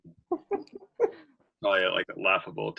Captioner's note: laughter